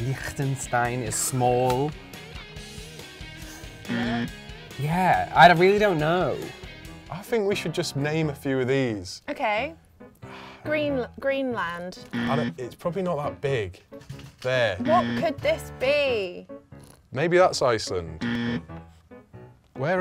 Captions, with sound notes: Lichtenstein is small... (alarm) - Yeah, I really don't know. - I think we should just name a few of these. - Okay, green, Greenland. (alarm) - It's probably not that big. There. (alarm) - What could this be? - Maybe that's Iceland. (alarm)